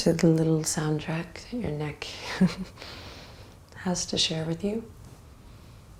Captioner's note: chuckles